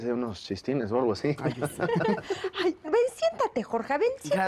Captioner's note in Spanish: Risas